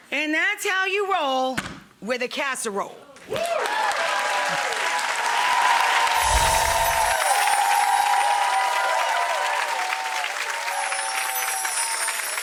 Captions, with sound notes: And that's how you roll with a casserole. Woo. (audience woots and claps) (tinkly music)